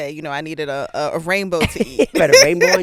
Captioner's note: laughing